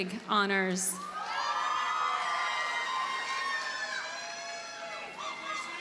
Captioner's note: audience cheers and applauds